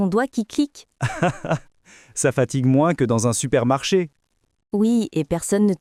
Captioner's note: laughs